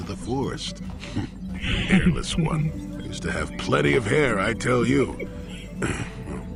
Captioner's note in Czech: pročistí si krk